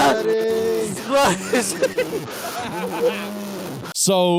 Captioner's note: growling